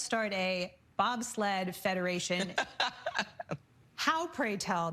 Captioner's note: laughing